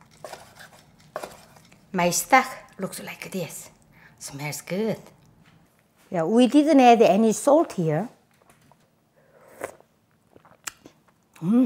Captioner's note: slurp